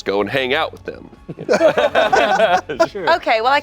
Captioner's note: everyone laughing